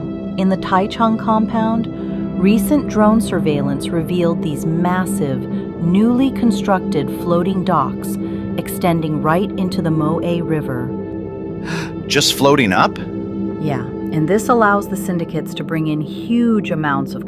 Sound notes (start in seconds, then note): 11.6 gasps